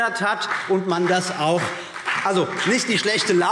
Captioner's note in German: Beifall BÜNDNIS 90/DIE GRÜNEN